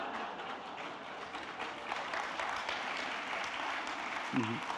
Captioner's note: audience applauding